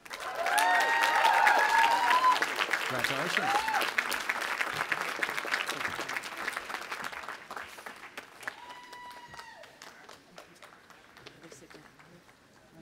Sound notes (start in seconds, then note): 0.2 audience applauding and cheering; 8.4 cheering